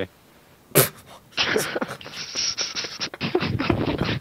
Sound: laughter

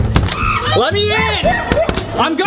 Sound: banging; screams

